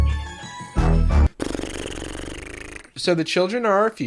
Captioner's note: trills his lips